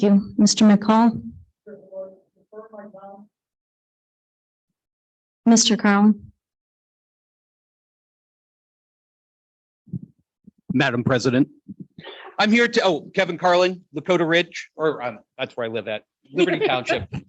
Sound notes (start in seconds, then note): 2.0 speaking softly